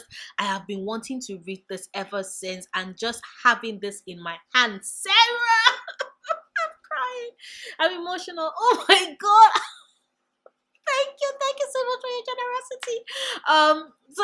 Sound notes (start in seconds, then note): 5.2 happy tears